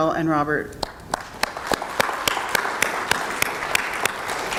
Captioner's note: audience applauds